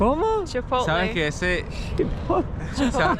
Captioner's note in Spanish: Risas